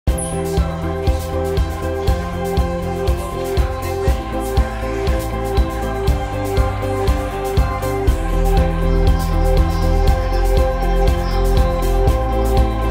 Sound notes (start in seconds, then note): 0.0 bright uptempo music; 3.9 audience murmuring